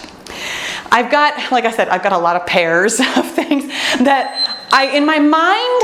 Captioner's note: timer beeps